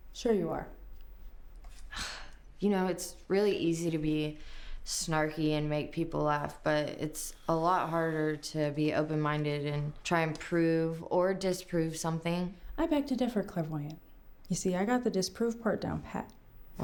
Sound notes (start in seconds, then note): 2.3 scoffs